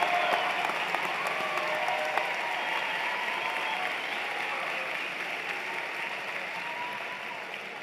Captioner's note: cheers and Applause